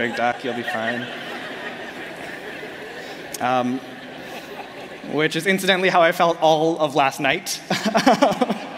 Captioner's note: laughter